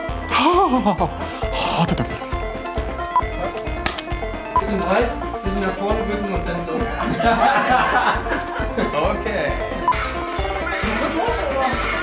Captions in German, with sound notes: Haaah! Bisschen nach vorne bücken. *Gelächter* Okay.